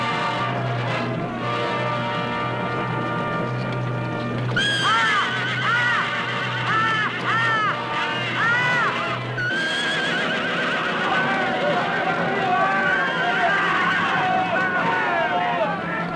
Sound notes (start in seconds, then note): 4.6 neighing, yelling; 11.4 chatter